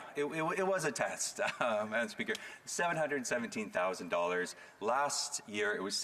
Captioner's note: laughter